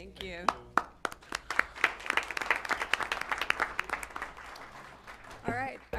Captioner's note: applause